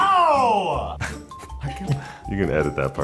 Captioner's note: Luke chuckles